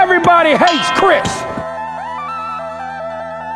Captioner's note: ding